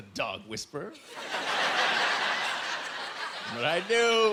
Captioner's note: laughing